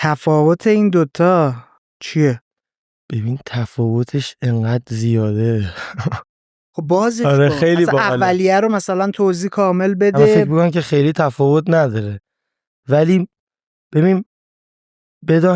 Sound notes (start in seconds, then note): 7.1 laughs